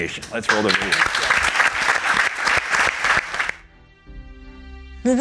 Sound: audience applauding

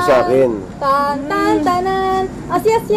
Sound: humming "Here Comes The Bride"

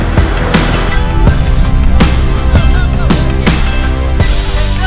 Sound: men yelling

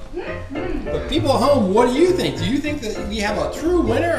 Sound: voiceover

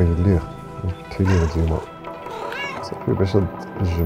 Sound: cat meows; man speaking in foreign language

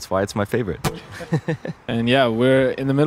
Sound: both laugh

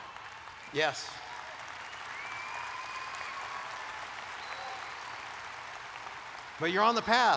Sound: applause

